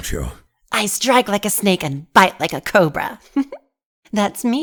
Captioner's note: laughs